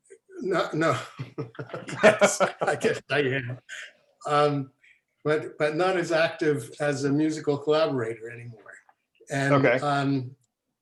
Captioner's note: laughing